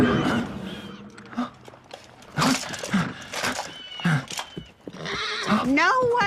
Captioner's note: gasps